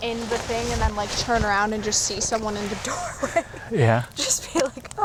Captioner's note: laughing